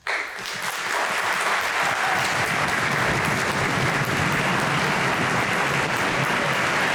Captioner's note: applause